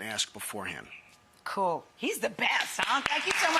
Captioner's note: audience applauds